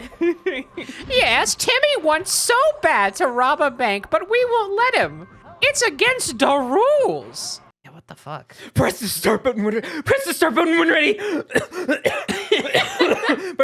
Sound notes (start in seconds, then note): 8.6 frantic voice; 11.1 coughing; 13.0 laughing